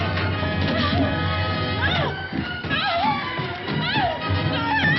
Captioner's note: person screaming